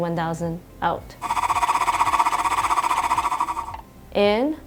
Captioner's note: sound of machine fluttering